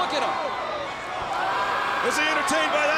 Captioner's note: Lex Luger shouts